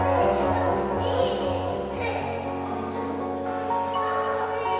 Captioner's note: child yells happily